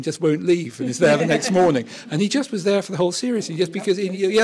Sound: laughter

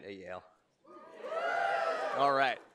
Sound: audience cheers

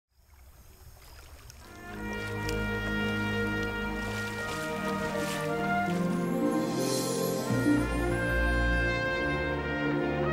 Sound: sound of water

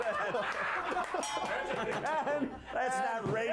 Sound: bell rings; applause

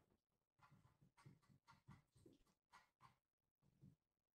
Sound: mouse scrolling

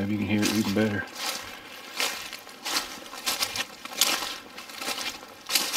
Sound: leaves crunching

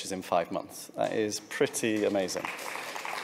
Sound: applause

